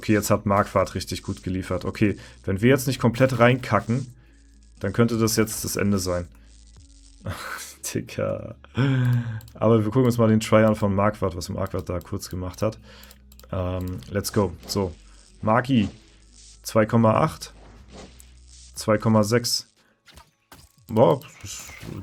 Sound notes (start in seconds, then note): 8.8 gasps